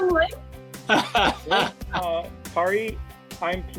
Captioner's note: laughs